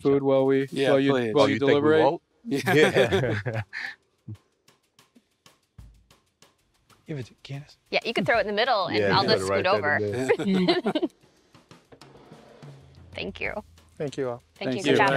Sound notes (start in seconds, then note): 2.5 laughing; 4.3 drumbeats; 10.6 laughing